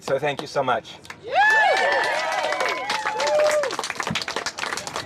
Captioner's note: cheering and applause